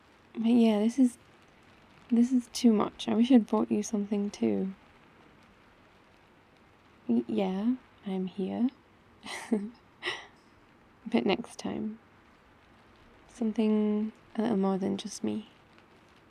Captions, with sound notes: but yeah, this is - this is too much I wish I'd brought you something too y-yeah, I'm here *laughs* but next time something a little more than just me...